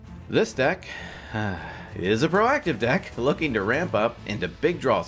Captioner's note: sighs